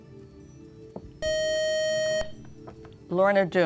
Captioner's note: buzzer